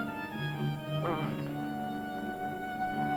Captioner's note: moans